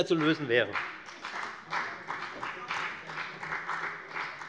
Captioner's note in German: Beifall bei der FDP